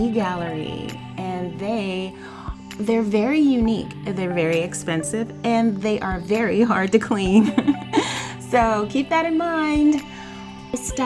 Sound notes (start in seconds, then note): 7.2 laughs